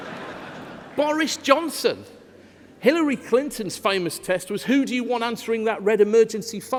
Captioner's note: laughter